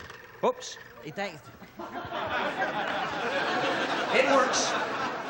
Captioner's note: audience laughing